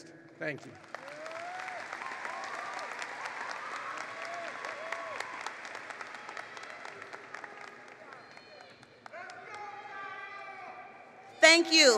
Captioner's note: applause